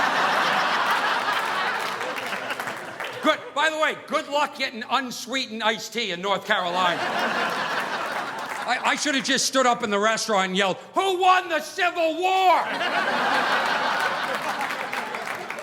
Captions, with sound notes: (audience laughing) By the way, good luck getting unsweetened iced tea in North Carolina. (audience laughing) I should have just stood up in the restaurant and yelled, "Who won the Civil War? (audience laughing)